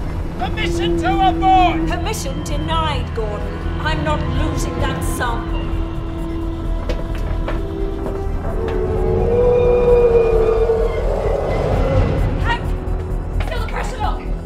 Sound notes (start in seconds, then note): 6.0 console beeping; 6.0 suspenseful music; 9.4 creature screeching